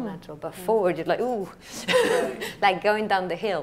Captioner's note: laughs